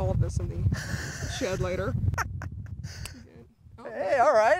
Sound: laughs

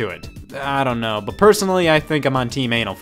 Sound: none

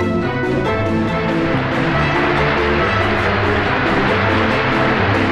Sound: upbeat music; audience applauding

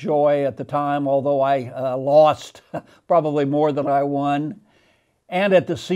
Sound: laughing

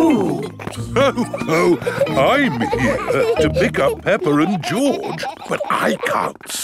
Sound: laughs

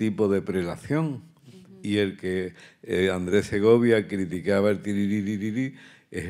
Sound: continues in Spanish

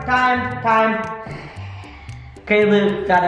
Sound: sighs

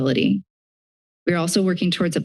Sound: silence

